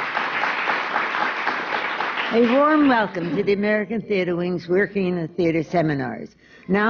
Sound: applause

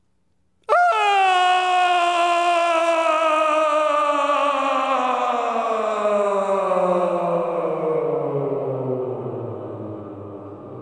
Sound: scream

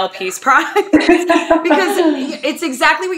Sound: laughing

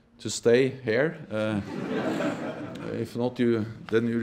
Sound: laughing

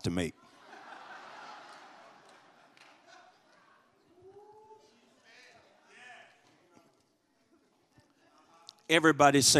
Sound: congregation laughs

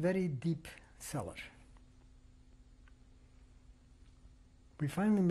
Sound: pauses for 3 seconds

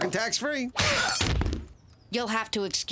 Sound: <i>grunts</i>

